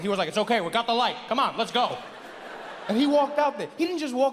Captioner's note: audience laughs